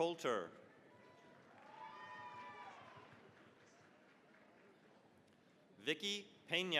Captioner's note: cheering, applause